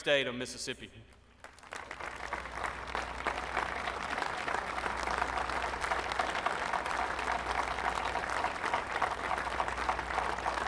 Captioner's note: applause